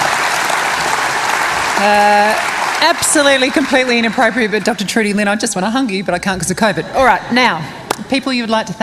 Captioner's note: cheering and applause